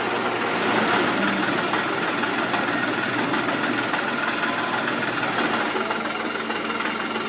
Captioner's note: engine